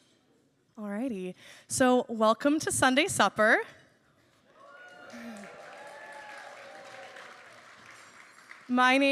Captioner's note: applause